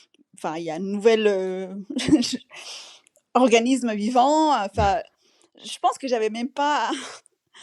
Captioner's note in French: rires